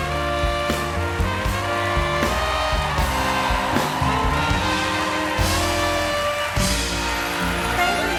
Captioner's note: cheers and applause